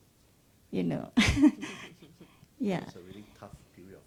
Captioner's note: laughs